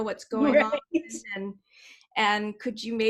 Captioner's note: giggles